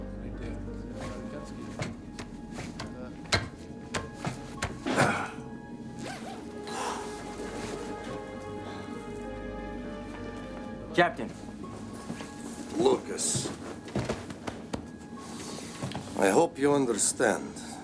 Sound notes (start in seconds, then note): 3.9 chopping; 4.7 moan